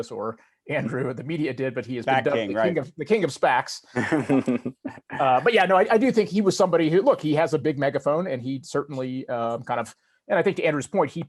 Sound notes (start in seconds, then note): 1.4 chuckles; 3.9 laughing